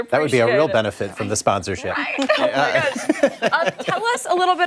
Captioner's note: laughter